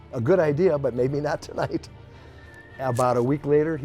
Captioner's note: chuckles